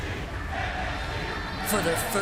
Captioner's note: fans chanting